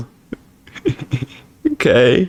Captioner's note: laughs to myself